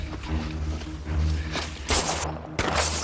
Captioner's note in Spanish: Disparos